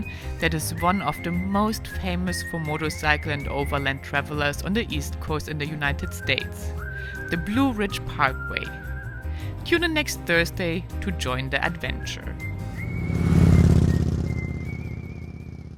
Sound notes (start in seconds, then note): 12.2 bike roaring